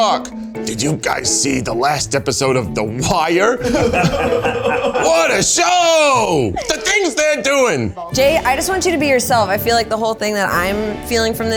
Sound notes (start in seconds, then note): 3.6 they laugh